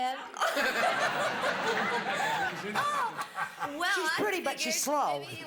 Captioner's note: laughter